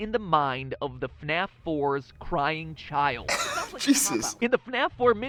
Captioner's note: snicking